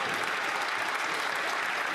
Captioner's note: some Applause